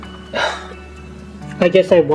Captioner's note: sighs